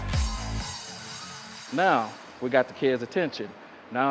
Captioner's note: crowd cheering